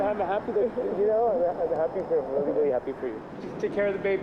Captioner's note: birds chirping